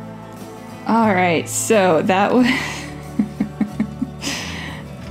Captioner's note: laugh